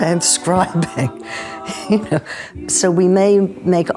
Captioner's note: laughing